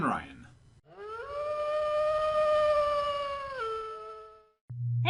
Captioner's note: distant wolf howl